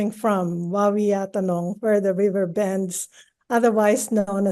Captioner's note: speaks in foreign language